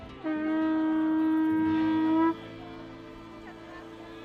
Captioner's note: horn blowing